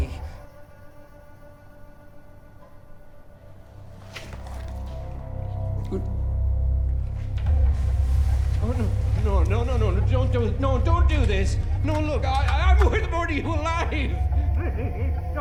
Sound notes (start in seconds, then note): 5.7 confused grunt; 14.1 whimpering